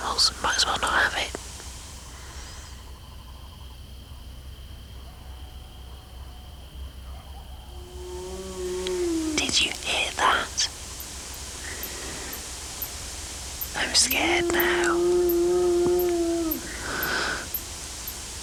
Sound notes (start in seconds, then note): 7.7 animal yowls; 13.6 yowling continues